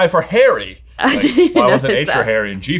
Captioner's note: laughs